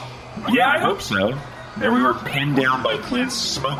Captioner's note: sarcastically